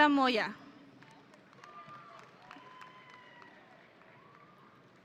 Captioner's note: audience cheering